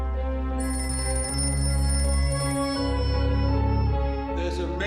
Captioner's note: telephone rings